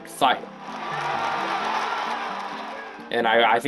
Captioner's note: cheering